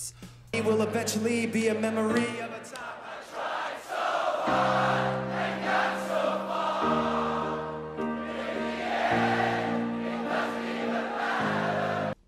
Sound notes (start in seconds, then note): 2.7 crowd